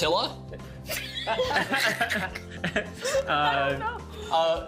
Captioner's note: laughing